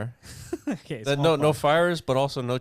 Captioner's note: laughs